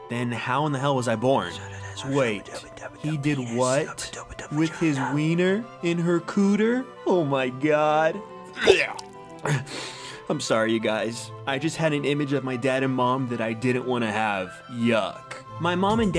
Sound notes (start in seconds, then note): 2.3 whisper; 8.5 gags